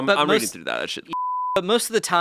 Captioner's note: beeping